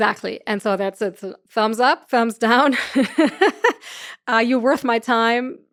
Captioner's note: laughs